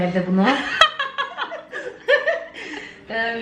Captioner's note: laughing